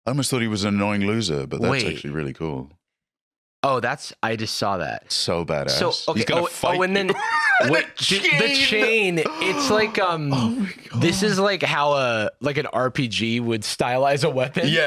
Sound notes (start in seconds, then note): 6.7 laughing